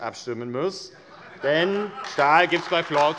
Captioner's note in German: Heiterkeit und Beifall AfD